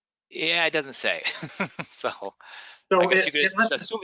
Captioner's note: chuckles